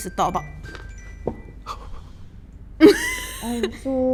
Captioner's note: phone rings